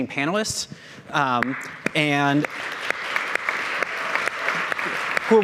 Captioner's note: audience applauding